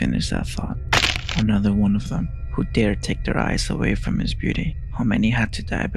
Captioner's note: snap